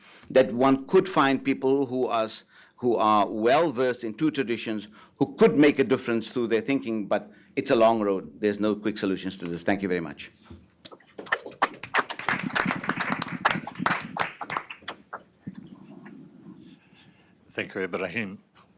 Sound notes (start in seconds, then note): 11.6 applause